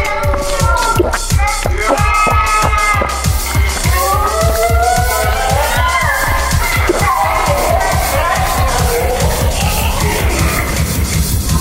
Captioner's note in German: Laute Rufe